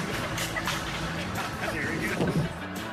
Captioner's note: girl laughs